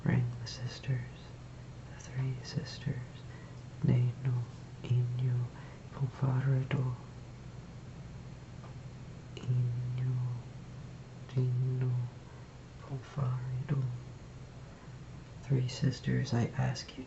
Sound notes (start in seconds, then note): 4.4 fogeign language